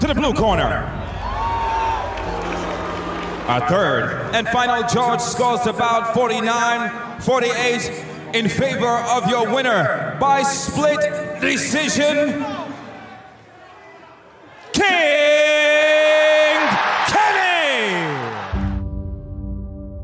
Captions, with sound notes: to the blue corner. (crowd booing) Our third and final judge scores the bout 49-48 in favor of your winner, by split decision, King Kenny! (crowd cheering)